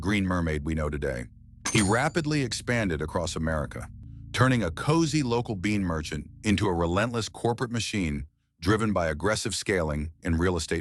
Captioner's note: SFX: cash register ding